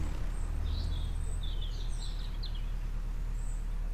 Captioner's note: distant bird call and boat engine